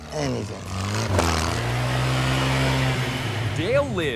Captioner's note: revving